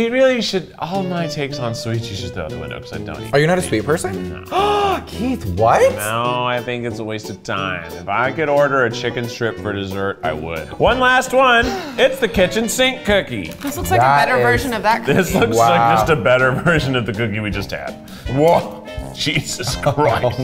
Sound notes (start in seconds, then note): 4.8 inhaling deeply